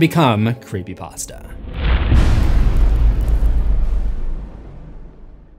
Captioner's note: impact